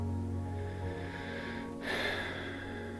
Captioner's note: breath